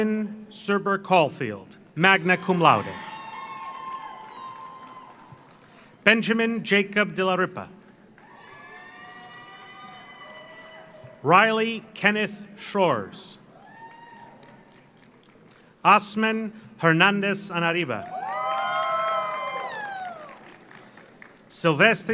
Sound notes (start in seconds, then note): 2.1 audience cheers; 2.5 audience applauds; 8.1 audience applauds; 8.2 audience cheers; 13.5 audience cheers; 13.6 audience applauds; 18.0 audience cheers; 18.0 audience applauds